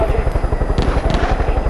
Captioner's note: gunfire